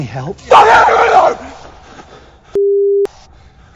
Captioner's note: screaming